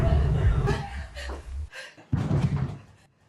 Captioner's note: Tish gasps